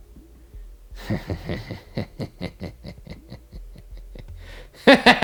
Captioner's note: cackles